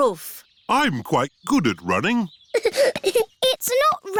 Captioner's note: giggling